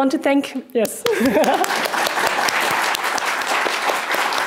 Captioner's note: audience clapping